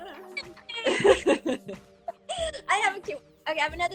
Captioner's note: laughing